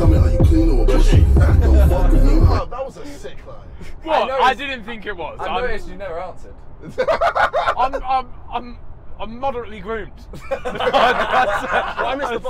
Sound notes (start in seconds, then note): 6.8 laughs; 10.2 all laughing